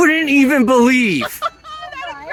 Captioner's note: laughs